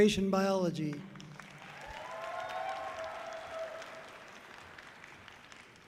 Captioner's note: audience cheering loudly